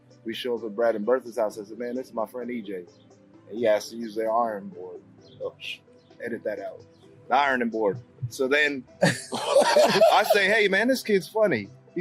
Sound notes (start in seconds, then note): 9.0 laughing